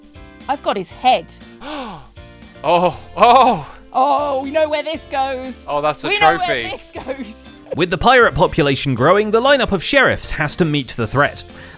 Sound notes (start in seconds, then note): 6.1 gasps